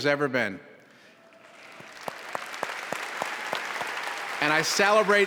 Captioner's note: applause